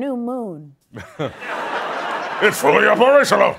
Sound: laughter

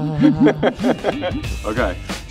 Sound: laughing

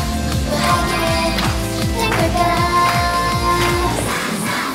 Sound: so glad, the students are cheering

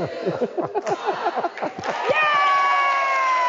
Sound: laughing; everyone cheering

